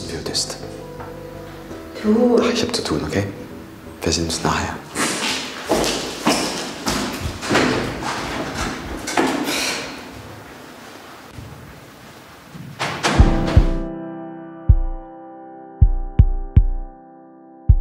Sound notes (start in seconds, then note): 9.2 exhales; 12.4 door closes